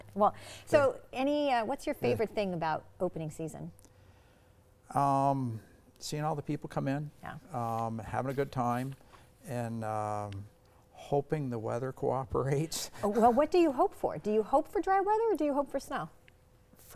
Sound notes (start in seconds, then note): 12.3 chuckles